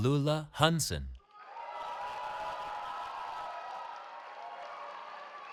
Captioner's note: cheering